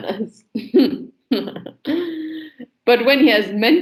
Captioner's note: laughs sarcastically